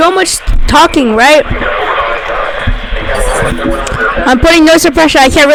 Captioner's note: radio voices